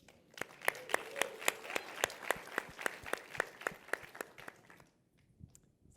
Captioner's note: applause